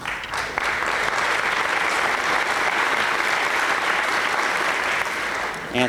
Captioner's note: applause